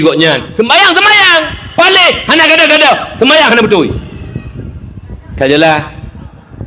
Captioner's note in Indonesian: berteriak